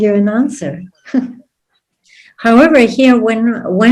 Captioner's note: laughs